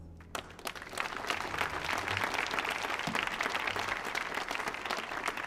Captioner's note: audience cheering and applauding